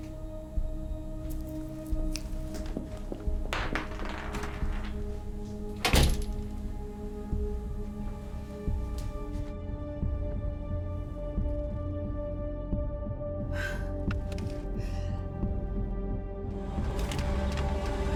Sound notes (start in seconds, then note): 1.9 footsteps tapping; 3.4 metal clanking; 5.7 door slamming; 6.5 dramatic music continues; 13.5 Abby sighing; 14.4 dramatic music continues